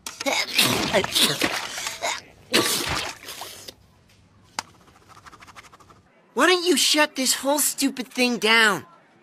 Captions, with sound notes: supervisor. (Sneezing) Why don’t you shut this